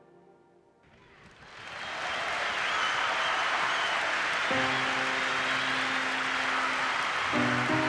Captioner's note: cheers and applause